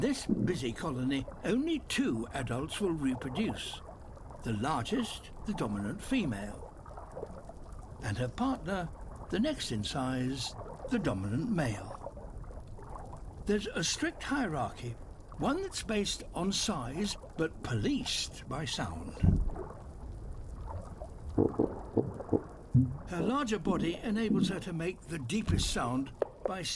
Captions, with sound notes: In this busy colony, only two adults will reproduce - the largest, the dominant female... ...and her partner, the next in size, the dominant male. There's a strict hierarchy, one that's based on size, but policed by sound. (CROAKY GRUNTS) Her larger body enables her to make the deepest sound